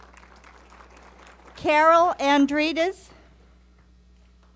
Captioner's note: applause